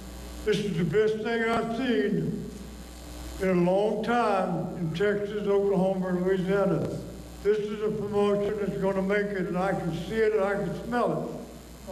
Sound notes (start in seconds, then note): none